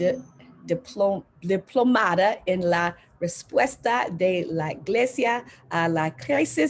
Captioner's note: speaking foreign language